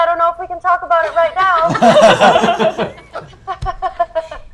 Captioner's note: laughter